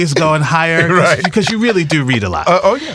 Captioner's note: laughs